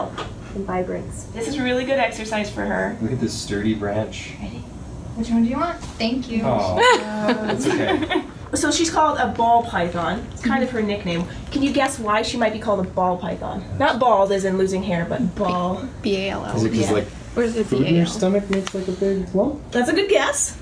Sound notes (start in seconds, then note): 4.4 whispers; 6.8 laugh